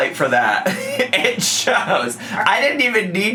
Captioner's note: laughs